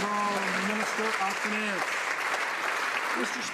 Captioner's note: some Applause